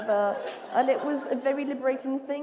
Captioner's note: laughter